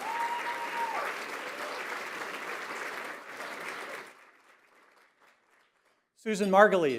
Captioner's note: applause